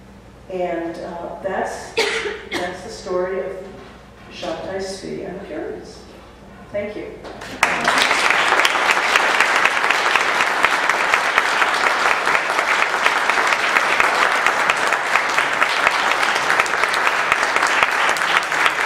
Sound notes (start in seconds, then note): 7.4 applause